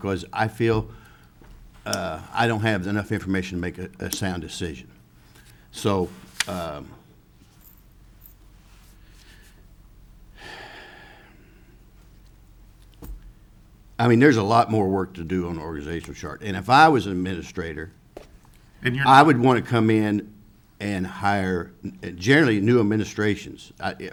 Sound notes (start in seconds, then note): 7.6 sighs